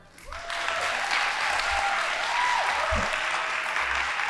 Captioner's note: audience applauding